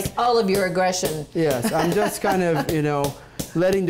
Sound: laughs

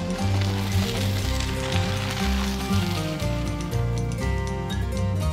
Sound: spinning bike wheels; calming instrumental music

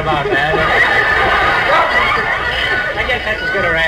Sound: audience laughs

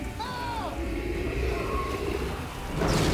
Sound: growling

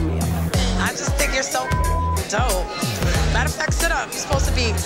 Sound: beep sound

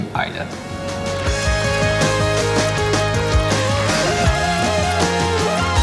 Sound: marble gate clicking multiple times

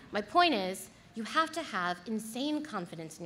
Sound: none

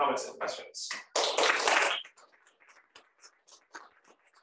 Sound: applause

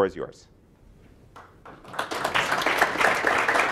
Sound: applause

